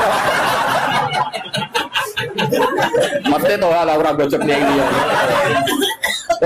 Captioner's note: laughs